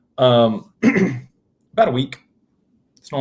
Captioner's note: clears throat